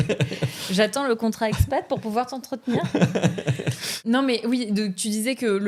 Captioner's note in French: rires; rires